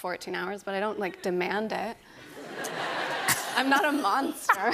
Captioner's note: laughter